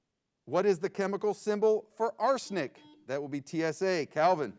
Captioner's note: buzzer beeps